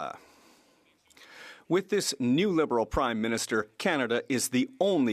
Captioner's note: speaking French